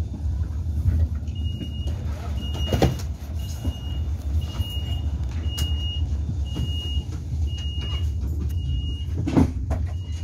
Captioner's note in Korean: 출입문 닫힘